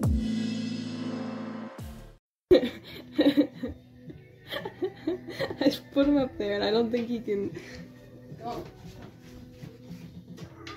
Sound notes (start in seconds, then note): 4.0 laughing; 10.5 cat meows